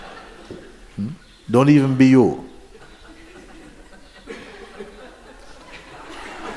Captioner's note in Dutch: gelach